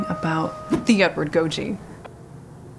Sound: swoosh

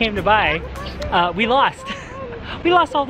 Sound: laughs

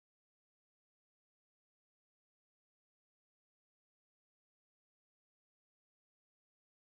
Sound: none

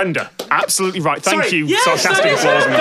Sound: the audience laugh but don't applaud

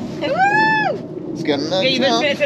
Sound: whooping

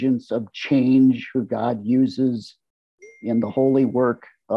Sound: notification sound

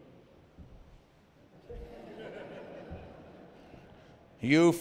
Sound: laughter

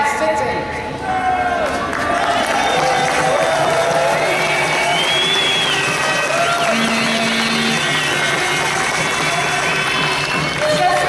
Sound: loud applause and trumpet sounds

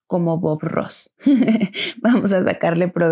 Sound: laughs in spanish

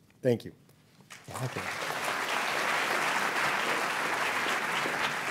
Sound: applause

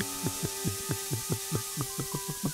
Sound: water draining

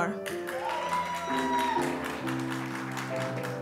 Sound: applause

